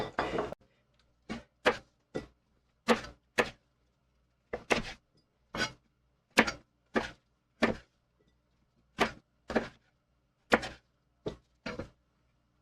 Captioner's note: knife cutting